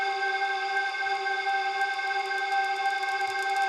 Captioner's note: crackling